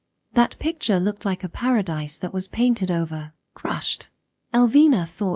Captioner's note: crushed